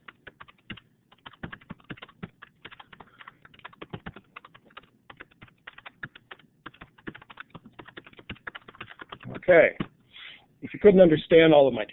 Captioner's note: typing